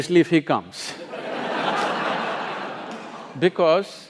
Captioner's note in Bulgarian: Смее се